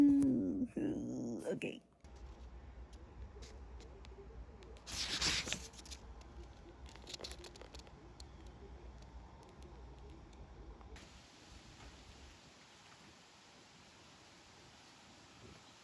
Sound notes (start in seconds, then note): 4.8 turns page; 11.7 nature noises